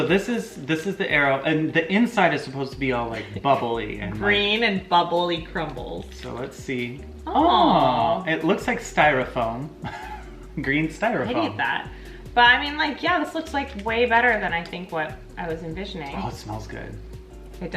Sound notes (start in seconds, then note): 9.8 laughs